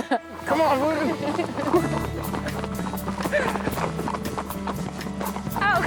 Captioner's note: horses galloping; laughs